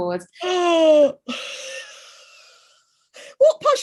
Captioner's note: sharp Gasp